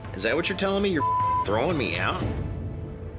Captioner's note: beep